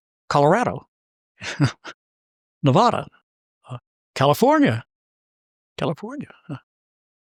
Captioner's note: laugh